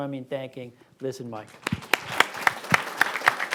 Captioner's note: applause